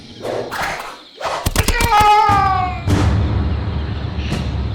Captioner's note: impaling Sounds; screams of Pain